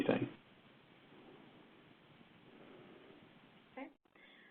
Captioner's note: 2 seconds pause